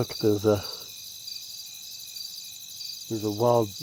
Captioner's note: crickets